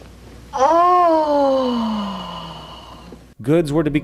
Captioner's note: satisfied moan